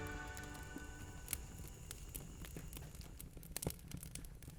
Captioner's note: fire crackling